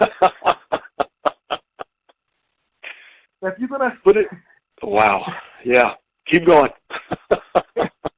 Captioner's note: chuckling